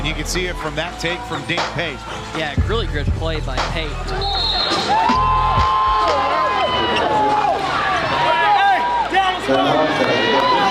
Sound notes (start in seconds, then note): 4.0 referee whistles; 4.3 fans cheering